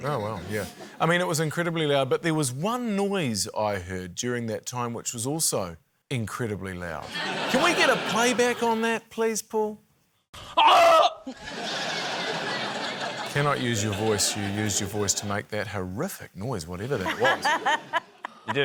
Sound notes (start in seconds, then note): 7.1 laughter; 10.5 screams; 11.2 laughter